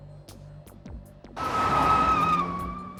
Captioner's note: tyres squeal